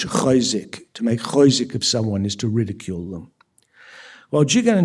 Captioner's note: yiddish